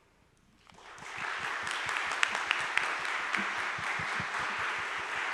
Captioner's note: audience applause